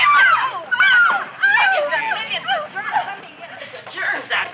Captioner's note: girls chattering